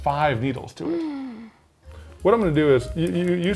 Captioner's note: gasping